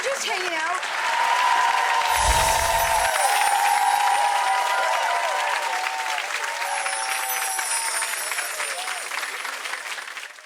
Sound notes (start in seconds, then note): 1.2 audience excitingly yelling; 2.8 audience clapping